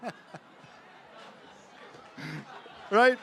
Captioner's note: laughter